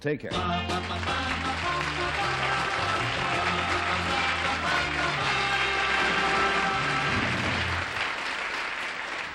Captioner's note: applause